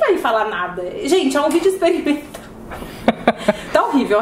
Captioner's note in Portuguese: risos